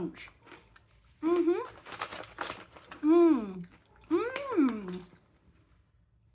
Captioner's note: happy mouth noises